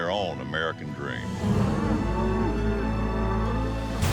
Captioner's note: cattle moo